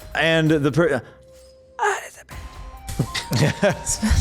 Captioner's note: person dieing noises